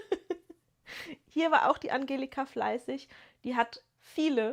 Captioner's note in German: gelächter